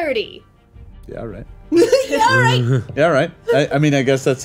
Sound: giggles

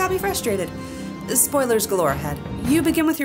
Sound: inhale

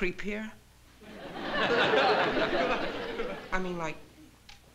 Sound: laughter

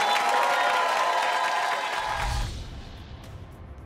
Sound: cheers

